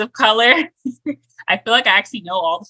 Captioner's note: chuckles